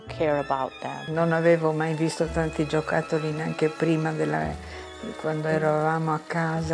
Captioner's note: speaking in foreign language